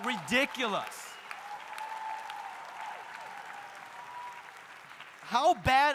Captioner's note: audience cheering; audience applauding